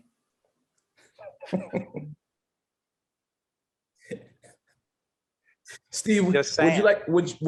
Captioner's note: laughing